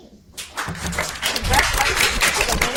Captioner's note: audience applauding